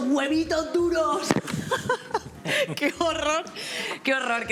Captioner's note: laughing